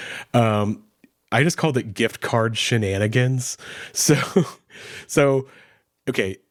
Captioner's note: chuckles